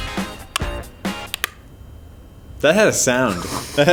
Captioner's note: popping